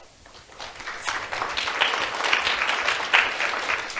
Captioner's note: applause